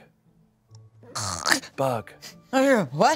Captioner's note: snores